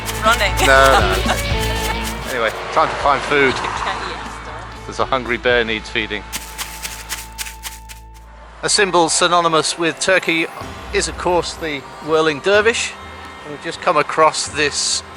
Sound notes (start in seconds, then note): 6.3 bear's footsteps running